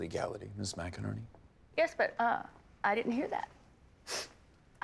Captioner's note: sniffs